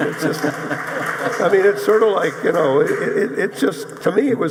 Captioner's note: audience applauding